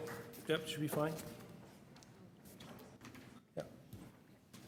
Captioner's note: applause